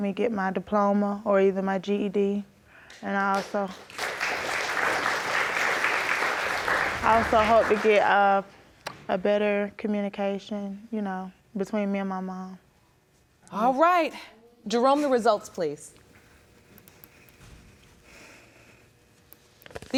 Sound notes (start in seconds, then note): 6.3 audience applauding